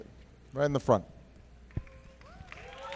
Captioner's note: applause